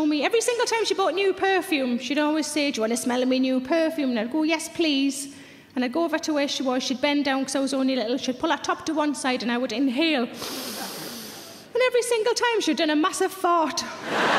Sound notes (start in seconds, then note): 10.4 sniffs